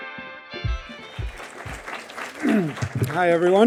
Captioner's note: audience applauding